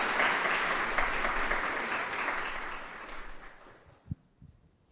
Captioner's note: applause